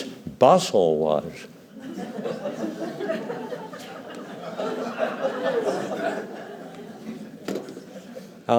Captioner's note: laughter